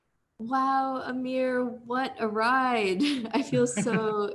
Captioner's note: chuckles